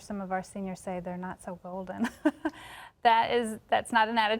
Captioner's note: chuckles